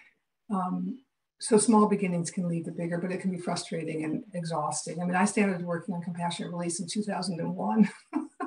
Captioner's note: laughs